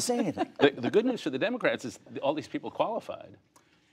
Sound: laughter

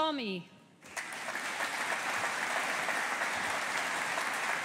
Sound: audience applauding

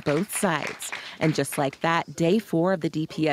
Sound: applause

